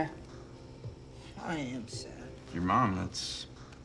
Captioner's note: French